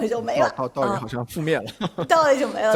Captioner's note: laughter